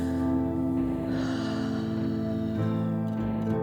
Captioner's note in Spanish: suspiros